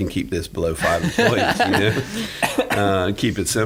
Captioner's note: laughing